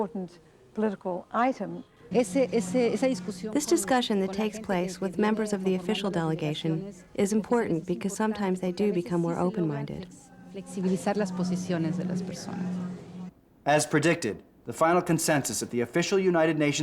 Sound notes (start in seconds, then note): 10.7 in Spanish